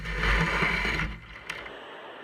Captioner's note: canoe screeching